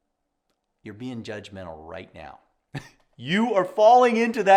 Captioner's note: laughs